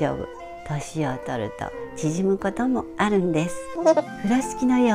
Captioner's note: laugh